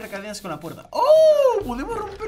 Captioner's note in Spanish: Sorprendido